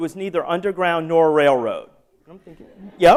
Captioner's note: laughter